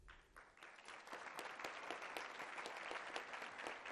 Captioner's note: applause